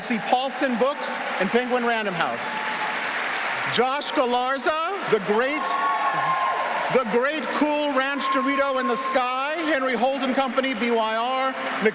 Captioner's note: applause